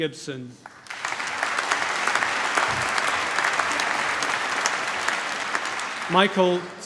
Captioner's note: applause